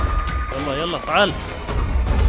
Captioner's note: Speaking in Arabic